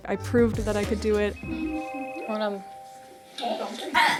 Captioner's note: phone rings; indistinct chatter